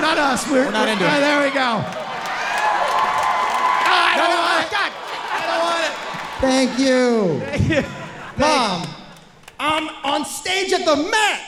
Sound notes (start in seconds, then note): 2.2 audience cheering and clapping loudly